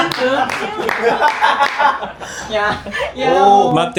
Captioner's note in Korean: 박수; 환호; 웃음